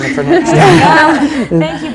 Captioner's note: laughter